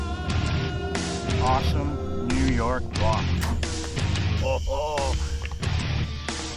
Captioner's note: laughing